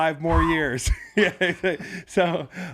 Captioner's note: laughs